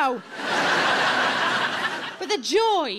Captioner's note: audience laughing